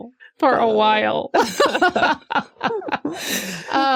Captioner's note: laughter